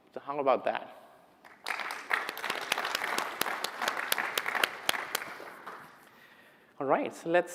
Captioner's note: applause